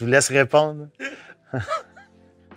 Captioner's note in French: rires